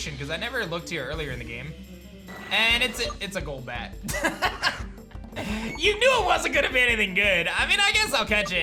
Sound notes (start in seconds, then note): 5.3 laughs